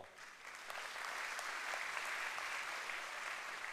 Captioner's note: applause